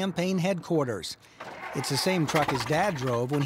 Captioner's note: none